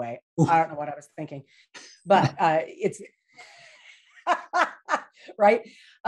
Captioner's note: laughs